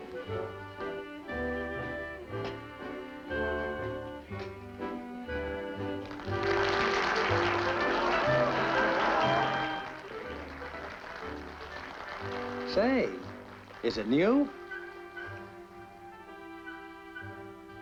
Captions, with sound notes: [applause] Say-- is it new?